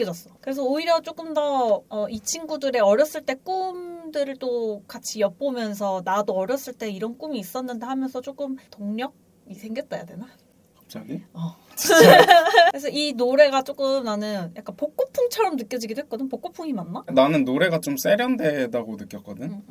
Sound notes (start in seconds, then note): 11.8 laughs